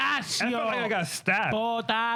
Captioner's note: speaking In Foreign Language